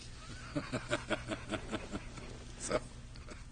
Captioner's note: laughter